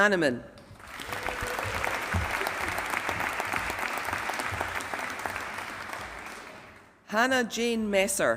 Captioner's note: applause